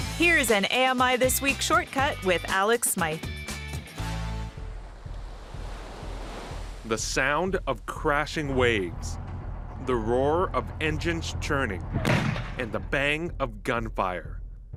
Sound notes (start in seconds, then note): 4.3 waves crashing; 8.6 engines rumbling; 12.0 gunfire